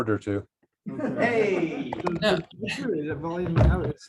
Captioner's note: laughter